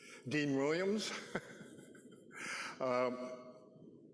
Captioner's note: chuckling